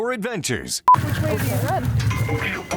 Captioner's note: machine beeping